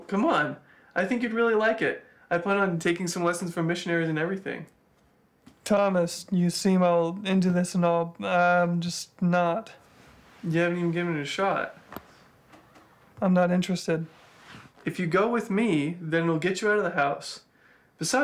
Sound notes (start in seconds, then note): none